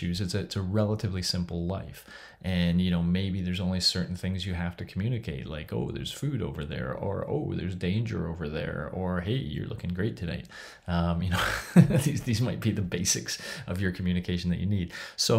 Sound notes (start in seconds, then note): 11.3 laughs